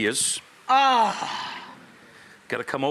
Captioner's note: Rachael moans